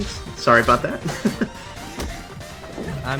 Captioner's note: laughs